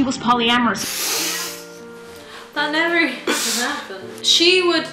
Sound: laughs

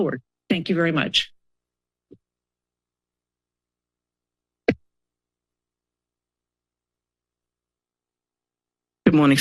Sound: silence

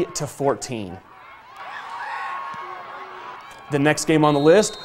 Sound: cheers

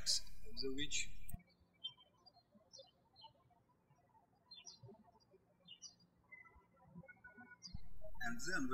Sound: birds chirping

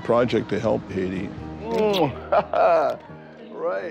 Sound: laughs

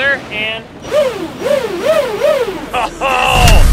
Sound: motors hum in unison

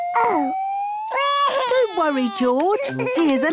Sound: crying

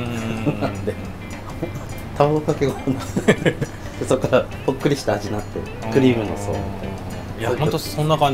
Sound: laughs

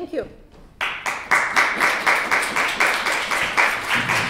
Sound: class clapping

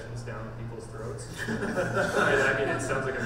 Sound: panel laughs

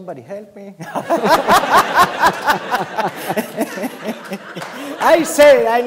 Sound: laughter

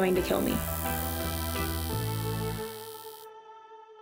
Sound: needle buzzing

